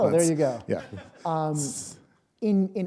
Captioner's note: chuckle